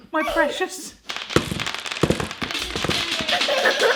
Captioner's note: thumping and clattering; giggling